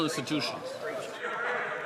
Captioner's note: some Applause